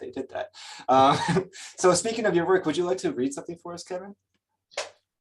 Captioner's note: chuckles